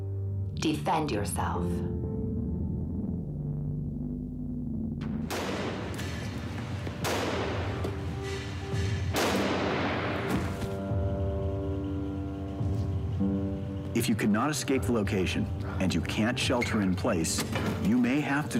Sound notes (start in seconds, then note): 8.1 gunshots